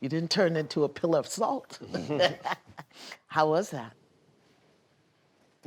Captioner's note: laughs